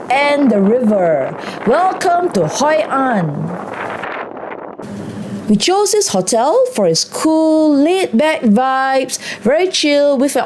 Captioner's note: wind Blowing